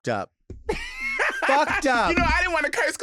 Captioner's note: laughing